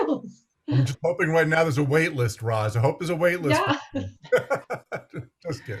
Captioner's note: laughs